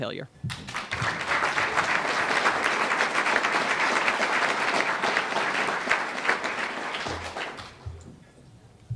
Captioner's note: applause